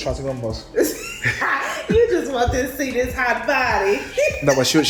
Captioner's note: laughs